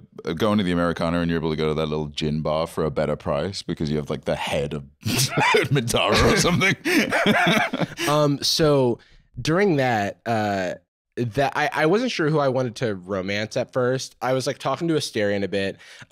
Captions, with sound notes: Go into the Americana; you're able to go to that little gym bar for a better price, because you have, like, the head of... Minthara or something. - (laughing) - Um, so... During that, uh... I wasn't sure who I wanted to romance at first. I was like talking to Astarion a bit.